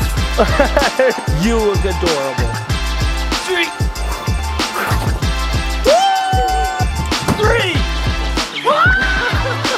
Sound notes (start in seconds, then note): 0.4 laughs; 3.7 makes whooshing noise